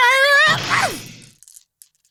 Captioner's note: crash